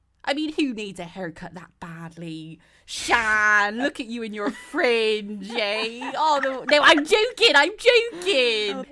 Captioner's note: all laugh